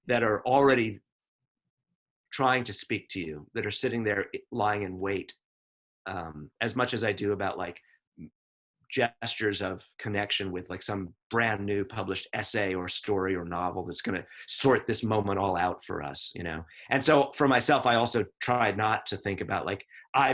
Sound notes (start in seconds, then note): none